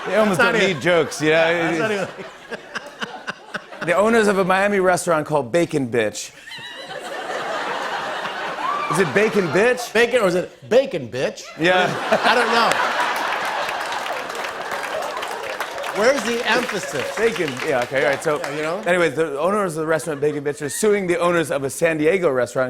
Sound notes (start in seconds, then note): 2.5 laughs; 6.4 laughter; 6.4 laughs; 14.5 applause